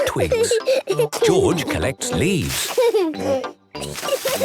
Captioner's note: giggling; kids giggling; laughing